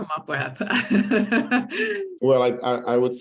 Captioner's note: laughs